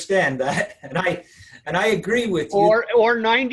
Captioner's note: chuckle